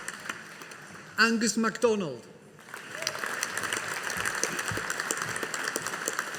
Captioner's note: audience applauding